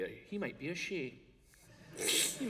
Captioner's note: laughter